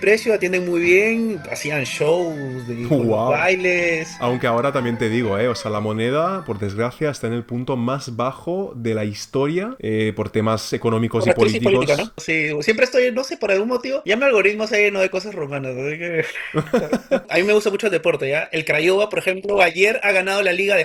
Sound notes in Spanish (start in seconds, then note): 16.1 risas